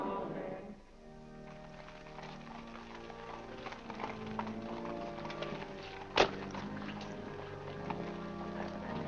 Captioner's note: organ plays; hooves trotting; organ plays